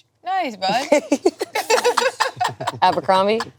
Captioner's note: group laughing